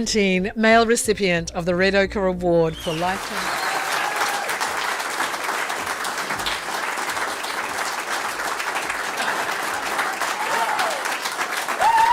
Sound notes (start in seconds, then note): 2.8 cheering and applause